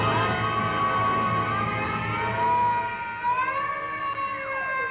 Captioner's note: alarm blaring